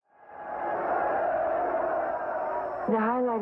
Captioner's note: audience cheers